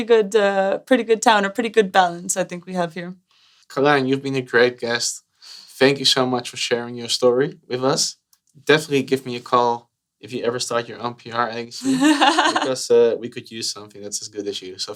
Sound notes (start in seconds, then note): 11.8 laughter